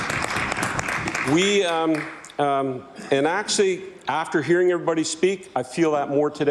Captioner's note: applause